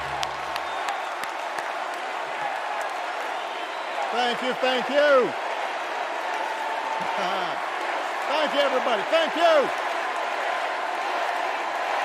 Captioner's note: cheers and applause